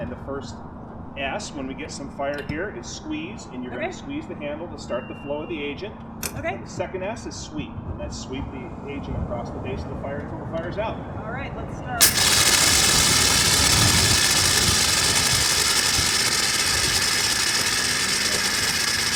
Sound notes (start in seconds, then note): 12.0 agent hissing